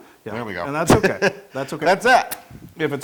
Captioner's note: laugh